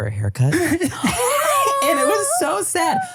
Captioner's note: laughs; empathetically sighs